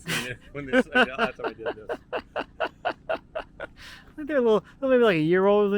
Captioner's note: laughing